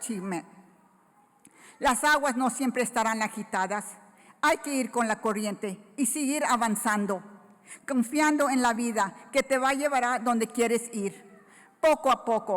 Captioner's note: foreign Language Spoken